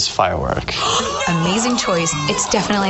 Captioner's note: contestants gasp and cheer